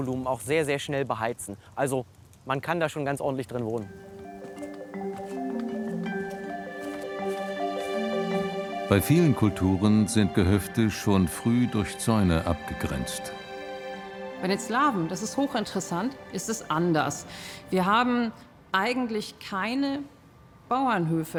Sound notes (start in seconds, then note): none